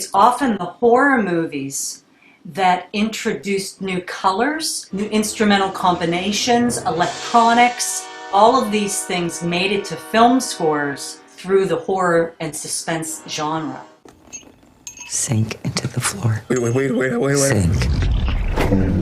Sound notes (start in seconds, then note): 6.0 dramatic music plays; 14.8 spoon clicking against teacup; 17.6 gurgling sounds